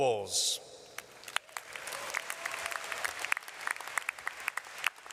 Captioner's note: audience applauds